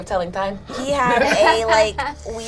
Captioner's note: laugh